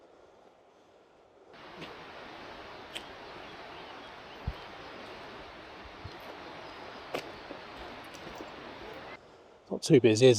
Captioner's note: birds singing